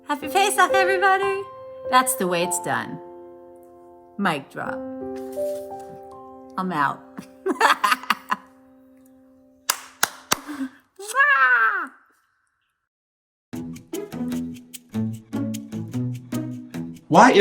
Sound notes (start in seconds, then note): 7.2 laughs; 9.7 claps; 13.5 upbeat music